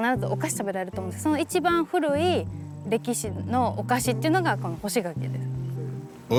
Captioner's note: continues speaking Japanese